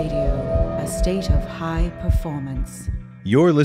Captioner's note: heart beating